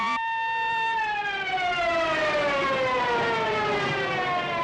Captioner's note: police sirens